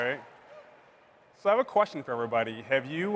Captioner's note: applause